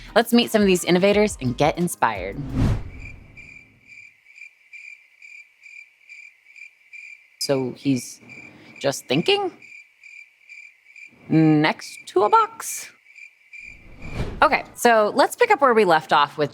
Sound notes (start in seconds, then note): 2.3 whoosh; 9.4 crickets chirping; 13.4 crickets chirping